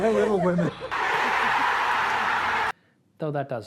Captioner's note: cheers